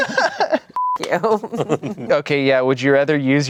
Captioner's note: everyone laughs; beep